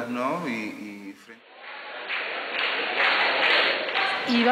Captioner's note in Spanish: la multitud aplaude